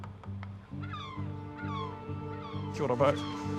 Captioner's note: seagulls squawk